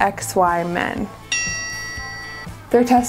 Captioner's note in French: tintement de cloche